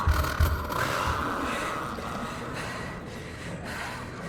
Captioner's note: none